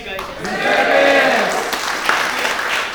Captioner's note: applauds